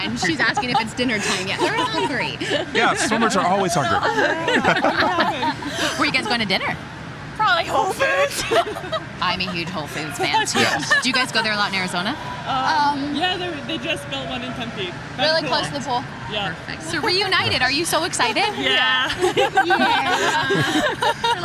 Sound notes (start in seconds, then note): 4.1 laughing; 8.0 laughing; 18.2 laughing